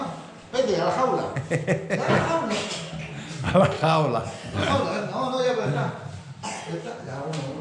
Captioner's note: laughs